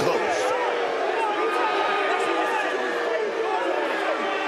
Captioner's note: crowd booing